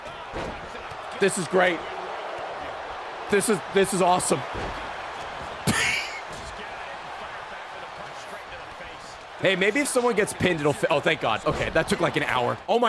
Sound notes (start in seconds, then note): 5.6 laughs